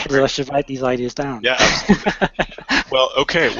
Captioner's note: laughter